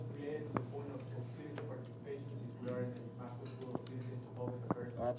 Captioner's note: speaking away from mike